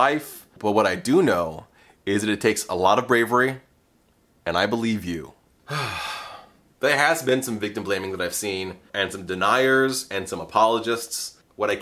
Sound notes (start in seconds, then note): 5.6 sigh